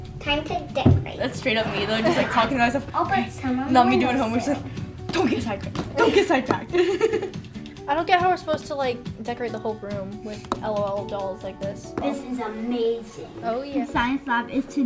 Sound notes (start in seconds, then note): 6.7 laughs; 14.0 upbeat music